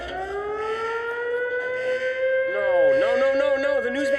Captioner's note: alarm wails